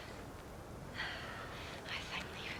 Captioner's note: sighs